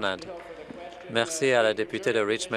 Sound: applause

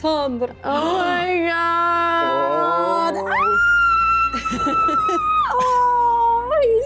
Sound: screams

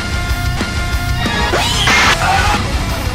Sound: crash

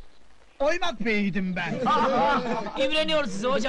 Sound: laughing

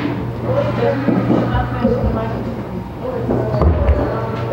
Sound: people chattering

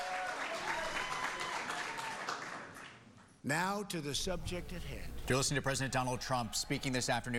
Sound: cheers and applause

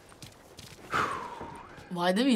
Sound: silence; Joel exhales

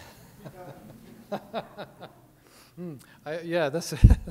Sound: laughing

